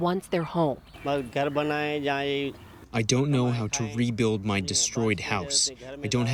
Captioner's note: through translator